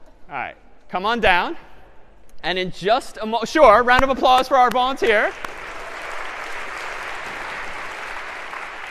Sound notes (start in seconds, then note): 4.9 applause